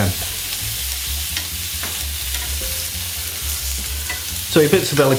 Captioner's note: sizzling